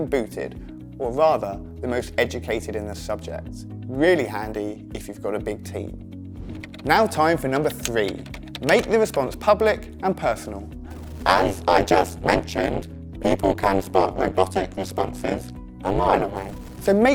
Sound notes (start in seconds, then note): 11.1 robot voice